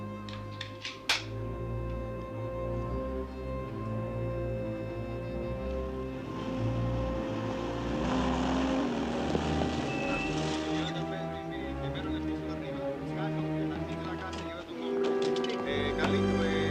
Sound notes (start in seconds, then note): 7.8 military vehicles approaching; 10.2 officers chattering over radio; 14.0 chattering continues